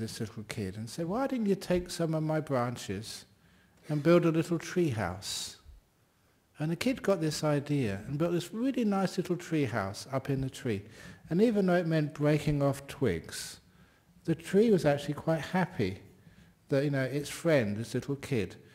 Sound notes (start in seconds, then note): none